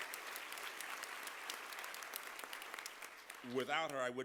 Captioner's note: applause